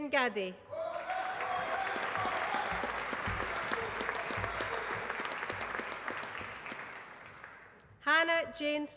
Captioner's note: applause